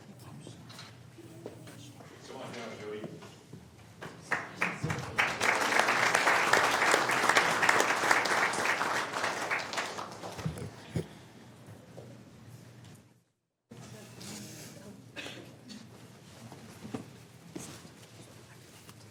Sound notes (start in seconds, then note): 14.4 applause